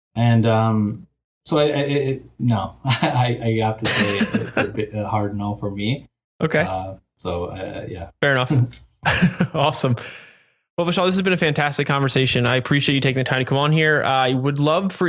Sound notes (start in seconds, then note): 3.8 chuckles; 9.0 laughs